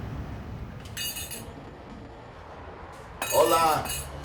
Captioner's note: bells jingle